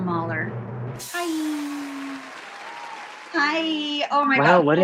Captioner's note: audience cheers and applauds